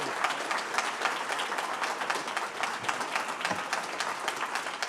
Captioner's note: applause; cheering